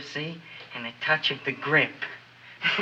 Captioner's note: chuckles